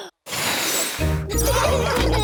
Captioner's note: blows; laughter